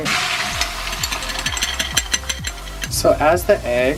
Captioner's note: egg sizzling